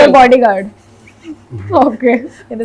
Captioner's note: langhing